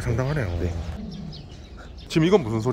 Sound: lion growling

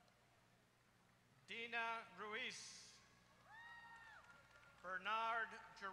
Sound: applause

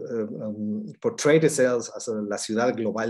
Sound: speaks in foreign language

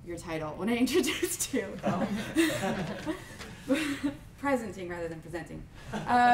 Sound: laughs

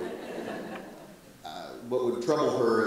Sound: audience laughs

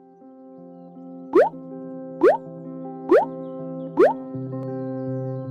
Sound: bloop

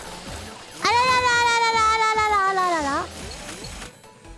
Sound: Struggling AI-chan noises

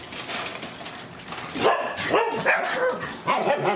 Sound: dog barking

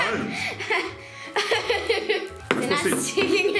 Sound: laughs

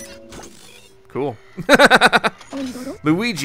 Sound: laughter

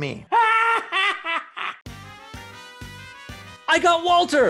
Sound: Pepper laughs

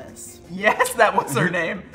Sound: laughs

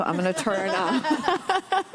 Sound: laughter

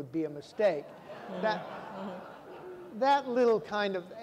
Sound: audience laughing

